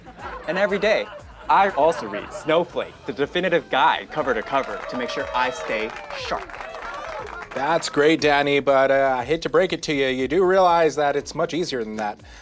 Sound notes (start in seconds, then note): 0.0 audience laughing; 6.7 audience cheering